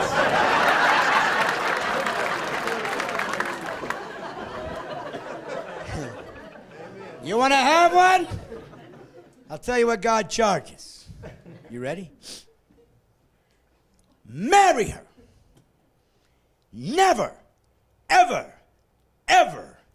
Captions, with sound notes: But they're very expensive. (laughing) - [Voiceover] Amen! - You want to have one? I tell you what God charges. You ready? Marry her!